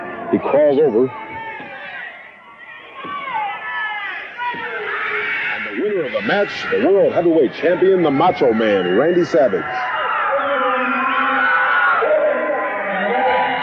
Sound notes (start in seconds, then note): 4.4 referee taps on floor; 9.2 audience shouting